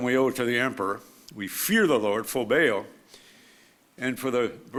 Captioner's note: speaks foreign language